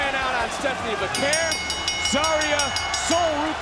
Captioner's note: bell rings